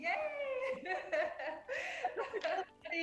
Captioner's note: laughs